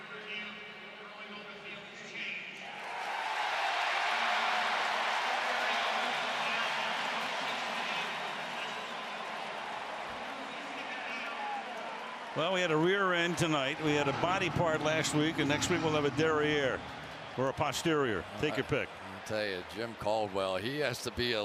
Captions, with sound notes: [referee call] [cheers, applause] Well, we had a rear end tonight. We had a body part last week. And next week, we'll have a derriere or a posterior. Take your pick. I'm going to tell you, Jim Caldwell, he